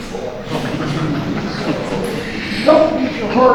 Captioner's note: audience muttering